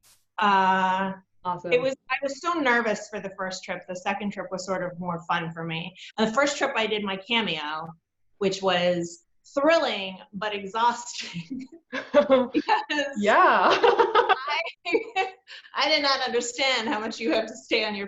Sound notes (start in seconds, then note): 13.6 laughs